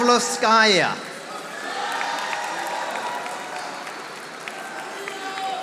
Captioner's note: audience applauding